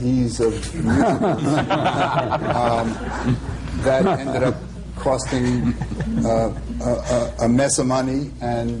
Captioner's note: laughter